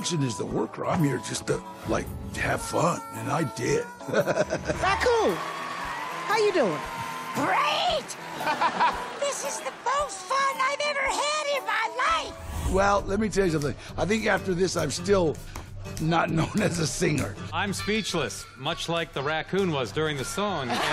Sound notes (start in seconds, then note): 3.8 laughs; 8.2 laughter